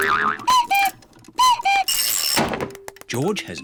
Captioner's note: clock cuckoos